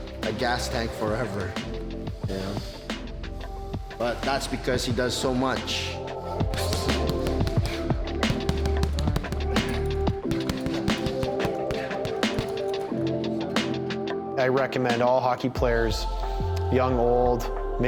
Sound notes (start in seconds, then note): 6.6 upbeat music; 10.2 punching bag thuds